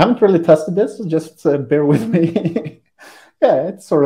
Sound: laughs

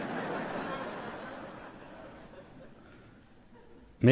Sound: laughter

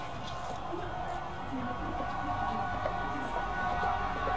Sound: train Passes In Background

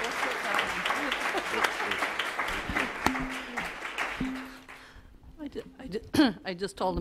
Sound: audience applause

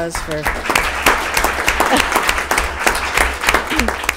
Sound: attendees applauding

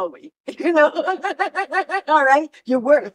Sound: laughter

